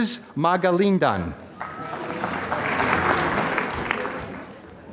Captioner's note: applause